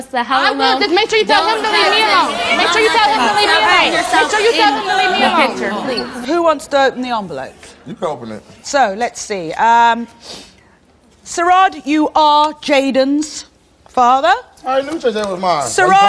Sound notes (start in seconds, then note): 2.4 yelling